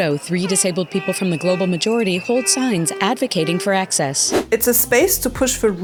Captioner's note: cheers, celebratory air horns